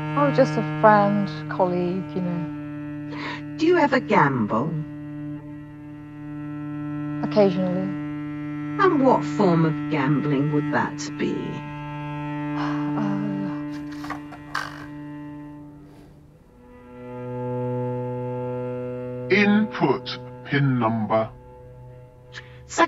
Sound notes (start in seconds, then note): 12.6 sighs; 13.9 card twanging